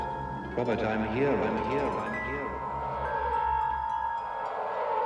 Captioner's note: echoing